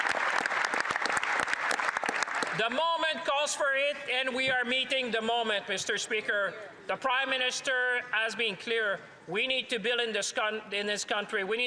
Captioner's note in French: applaudissements